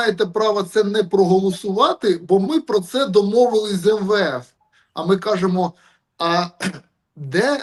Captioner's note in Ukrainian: прочищення горла